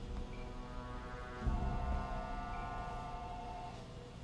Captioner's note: phone ringing